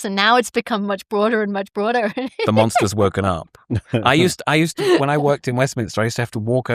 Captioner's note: laughs; laughter